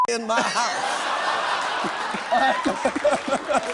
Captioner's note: laughter